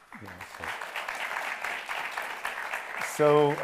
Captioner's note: audience applauds